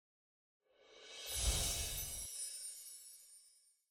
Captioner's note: chimes tinkling